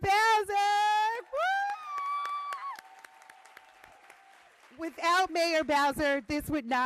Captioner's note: applause